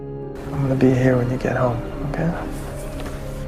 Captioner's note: voiceover